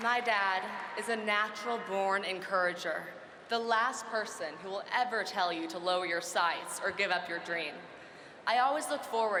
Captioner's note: applause